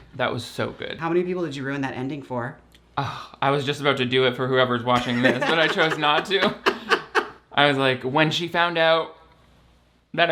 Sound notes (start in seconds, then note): 5.0 laughs